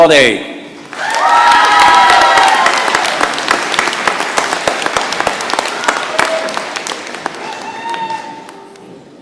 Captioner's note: cheering and applause